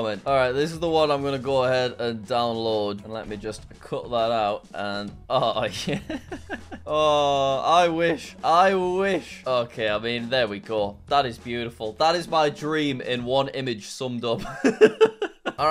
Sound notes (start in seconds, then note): 5.7 chuckles; 14.5 laughs